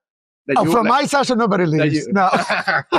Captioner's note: laughs